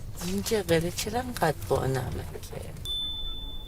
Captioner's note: persian dialogue